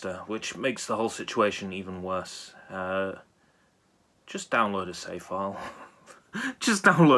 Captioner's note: nervously laughs